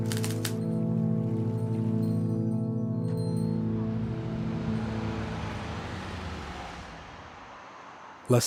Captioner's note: typewriter clicking